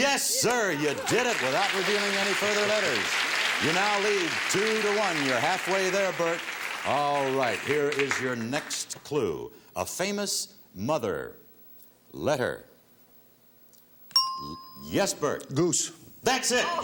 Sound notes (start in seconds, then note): 14.3 ting